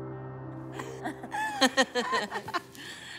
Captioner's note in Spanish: Risas